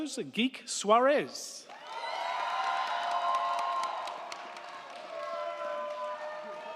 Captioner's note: crowd clapping; crowd cheering